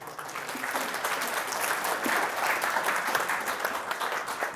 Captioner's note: audience clapping